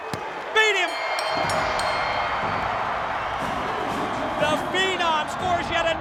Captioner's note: bell dings